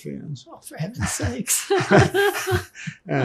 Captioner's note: laughing